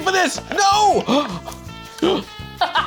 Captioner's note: gasps